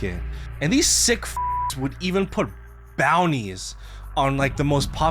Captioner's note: beeps